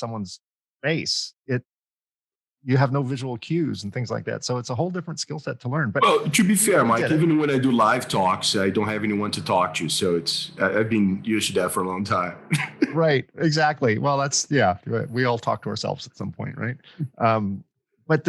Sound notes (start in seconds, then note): 12.5 laughter